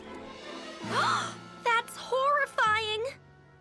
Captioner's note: gasps